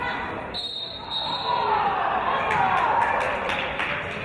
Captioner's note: referee's whistle